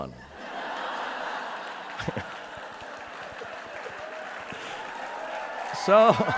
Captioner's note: audience laughing and applauding